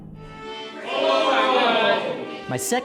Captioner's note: men cheer